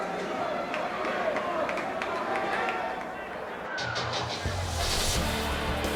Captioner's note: crowd chatter